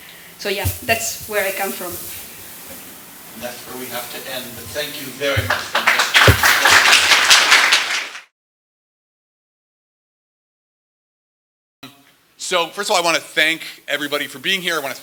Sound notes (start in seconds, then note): 5.4 applause